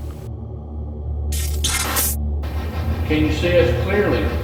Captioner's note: electronic effect